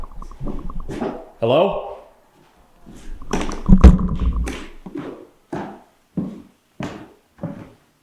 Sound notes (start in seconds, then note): 3.2 flashlight thuds